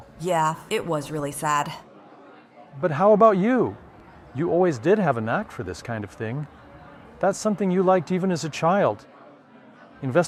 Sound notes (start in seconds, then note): none